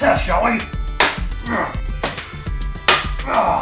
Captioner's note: thwacks and grunts